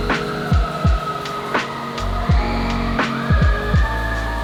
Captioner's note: excited screaming